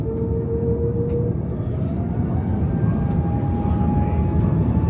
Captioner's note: engine humming